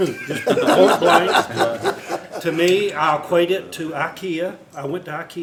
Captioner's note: laughter